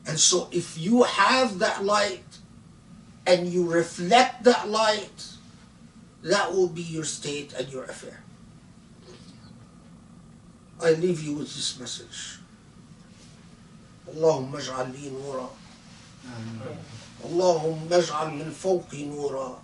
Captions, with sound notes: and so if you have that light and you reflect that light, that will be your state and your affair. I leave you with this message. (speaking foreign language)